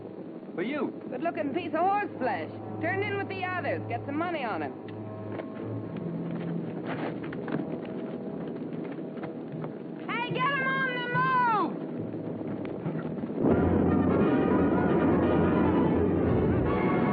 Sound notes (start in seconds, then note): 8.0 horse clopping